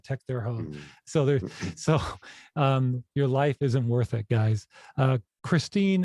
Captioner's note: laughs